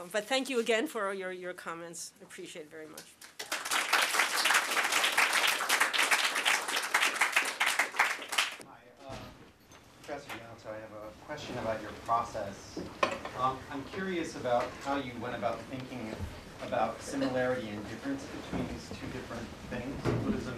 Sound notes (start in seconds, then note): 3.1 applause